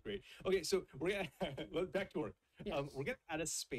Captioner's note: chuckles